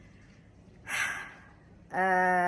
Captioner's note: heavy sigh